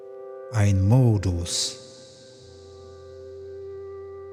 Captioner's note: german